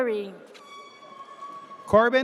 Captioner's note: air horn blares